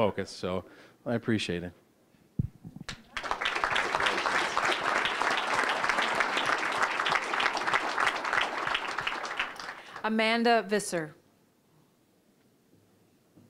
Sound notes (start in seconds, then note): 2.8 applause